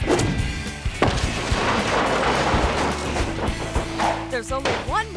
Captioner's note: chimney crumbling